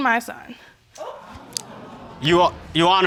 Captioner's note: audience gasps